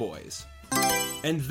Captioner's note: Mario Selection Sound